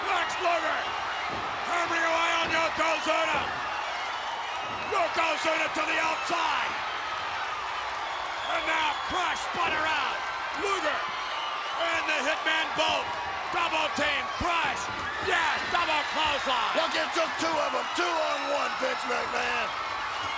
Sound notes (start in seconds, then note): 16.3 audience cheers